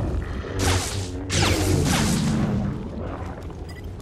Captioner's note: lightsaber strikes